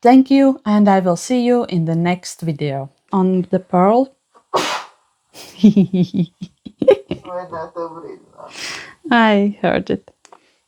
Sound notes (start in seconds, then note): 7.4 sneezes